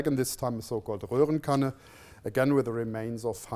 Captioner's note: non-english speech